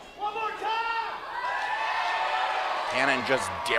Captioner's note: crowd cheers